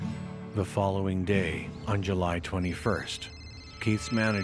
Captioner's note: phone ringing